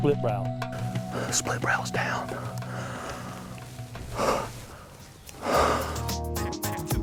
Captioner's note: whispering